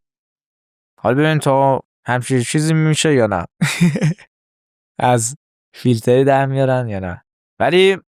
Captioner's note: laughs